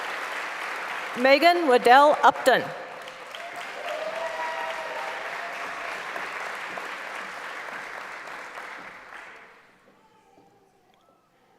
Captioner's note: applause; applause